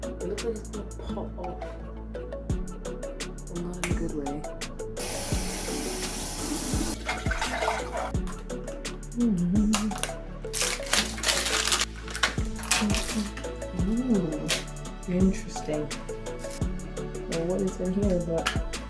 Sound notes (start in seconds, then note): 3.8 snaps fingers